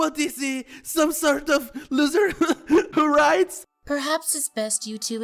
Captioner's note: laughs